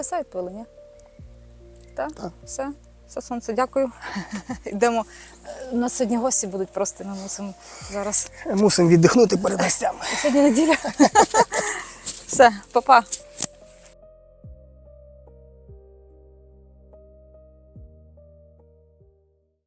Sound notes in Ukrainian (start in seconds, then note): 10.0 сміх